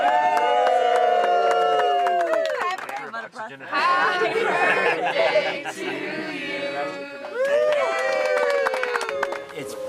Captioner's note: applause/singing